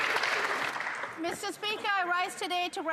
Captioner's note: some Applause